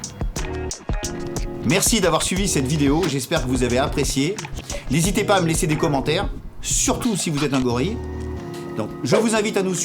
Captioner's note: laughs